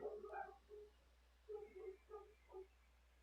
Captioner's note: barking in the background